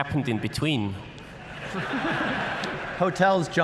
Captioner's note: laughter